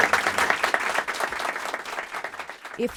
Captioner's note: applause